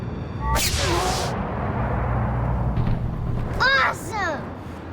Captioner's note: beam firing